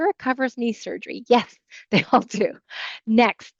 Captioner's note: chuckles